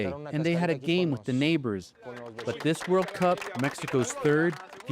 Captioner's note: speaking alternate language